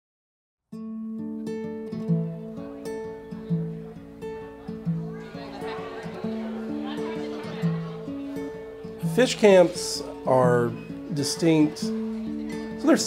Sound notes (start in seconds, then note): 0.8 soft guitar music; 5.3 people chattering